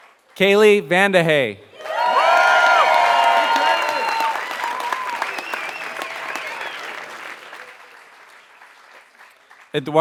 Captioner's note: applause